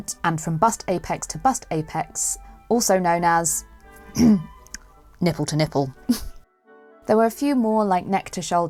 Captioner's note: snicker